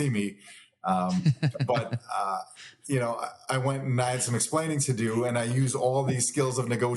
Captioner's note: laughs